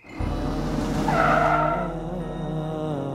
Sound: tyres screeching

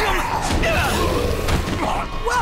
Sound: fighting impacts and grunting

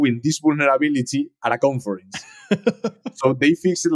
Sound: host laughing

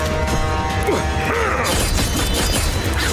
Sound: grunting

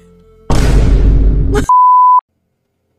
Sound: jumpscare

